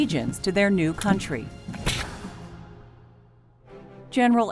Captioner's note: gun shot